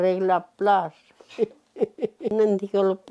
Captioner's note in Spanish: Ríe